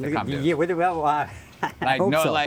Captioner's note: laughs